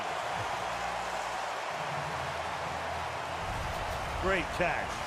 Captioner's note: cheering